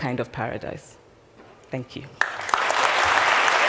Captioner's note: applause